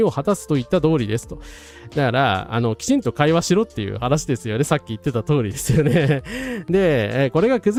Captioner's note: laughs